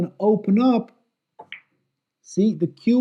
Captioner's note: ball clacks